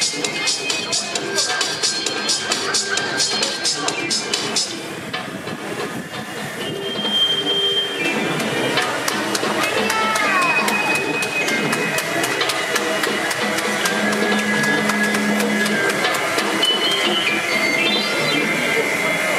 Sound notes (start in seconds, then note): 6.1 vacuum whirring; 11.3 audience applauding